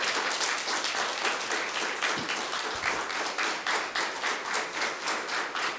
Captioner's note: audience applauds